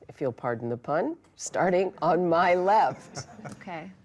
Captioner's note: laughter